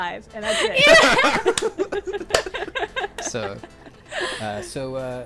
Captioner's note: everyone laughing